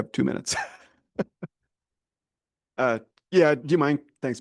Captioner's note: chuckles